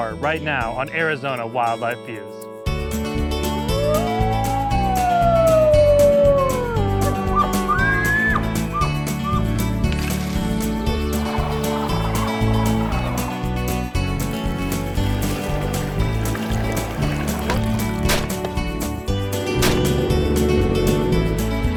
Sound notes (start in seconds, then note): 3.6 wolf howling; 7.0 elk bugling; 17.8 gunshots; 19.8 boat motor; 21.6 wind rustling